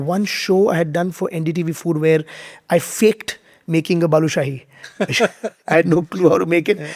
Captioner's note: both laughing